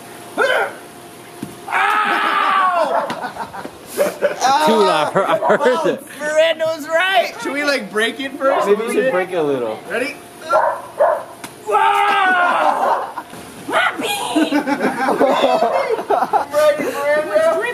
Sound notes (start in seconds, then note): 0.1 laughter; 0.4 grunts, then groans loudly; 11.6 screaming; 11.6 laughter